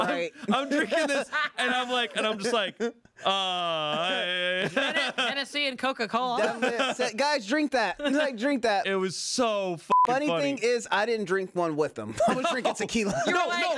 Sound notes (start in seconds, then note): 9.9 beep